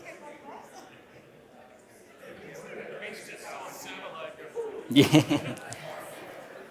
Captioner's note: laughs